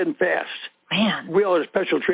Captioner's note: over the Phone